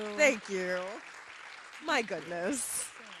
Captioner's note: audience applauding